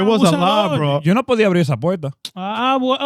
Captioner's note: speaking In Foreign Language